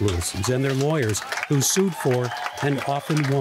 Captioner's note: people cheering; people clapping